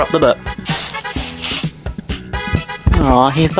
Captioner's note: cat brushing noises